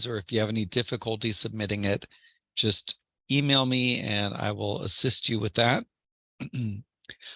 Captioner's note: cough